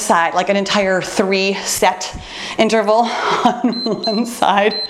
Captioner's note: laughs; timer beeps